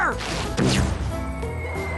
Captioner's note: boom